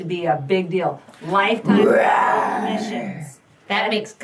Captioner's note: roars